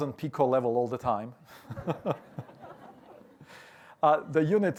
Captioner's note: laughter